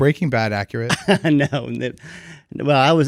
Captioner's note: laughs